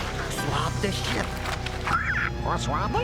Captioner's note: squawks